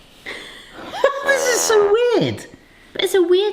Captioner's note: fail trombone honks